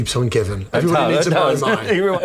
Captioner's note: laughter